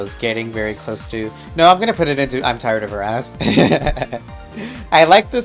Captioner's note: laughs